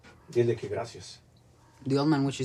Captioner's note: man speaking in foreign language